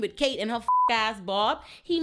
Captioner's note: beep